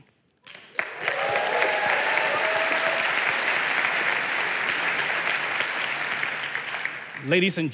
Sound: applause

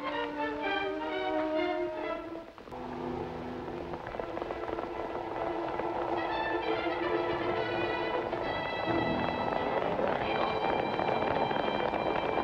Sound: horses running

